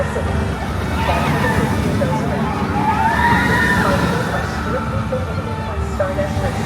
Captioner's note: people on rollercoaster scream